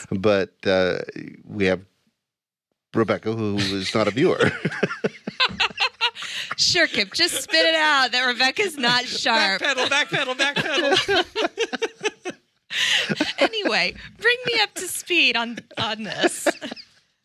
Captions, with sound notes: but we have Rebekah who is not a viewer. (all laughing) - Sure, Kip, just spit it out that Rebekah's not sharp. - Backpedal, backpedal, backpedal. - Anyway, bring me up to speed on this.